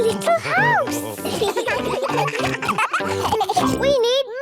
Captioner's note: children giggling